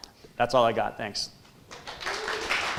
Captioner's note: applause